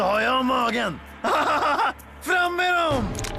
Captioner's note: laughs